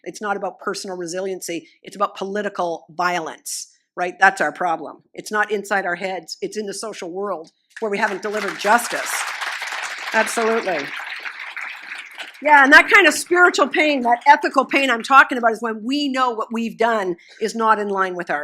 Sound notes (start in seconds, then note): 7.8 applause